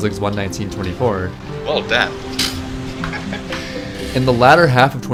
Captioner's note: laughs